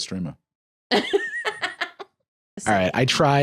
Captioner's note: laughs